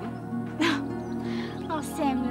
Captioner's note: chuckling